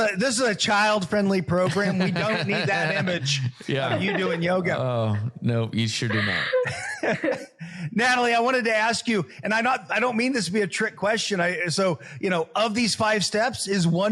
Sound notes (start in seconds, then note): 1.7 laugh